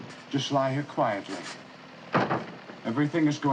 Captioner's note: thudding